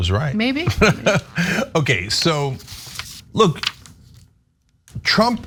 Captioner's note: laugh